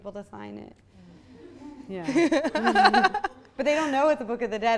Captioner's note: audience laughs